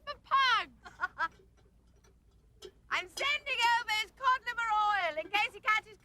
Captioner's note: laughs